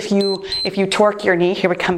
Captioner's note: timer beeps